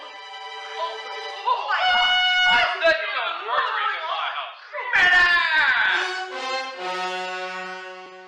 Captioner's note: screams of terror and surprise